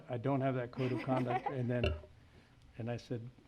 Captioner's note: laughs